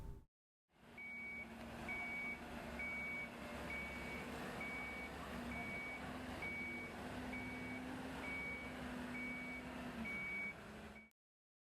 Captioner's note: beeping